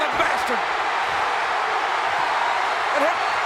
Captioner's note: crowd cheers